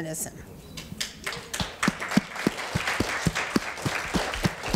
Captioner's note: audience applause